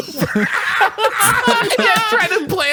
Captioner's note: laughs